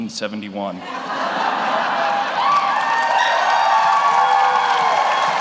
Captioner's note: audience laughs; audience applauds; audience cheers